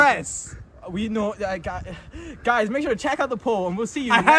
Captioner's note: struggling to speak